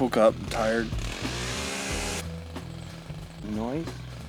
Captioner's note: small engine roaring